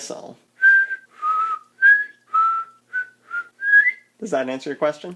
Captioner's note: short whistle trills